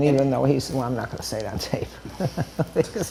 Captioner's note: chuckles